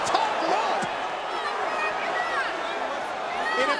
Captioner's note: audience chattering